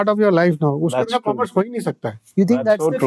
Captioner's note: speaks in Hindi